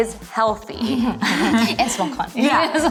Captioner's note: laughter